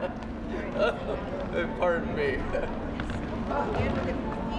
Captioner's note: laughter